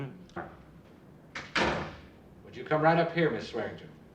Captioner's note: door closes